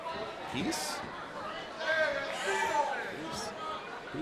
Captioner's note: crowd chatter